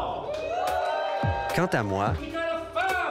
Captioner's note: applause